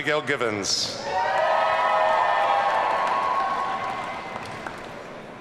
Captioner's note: audience cheering